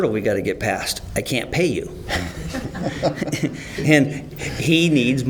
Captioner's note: laughter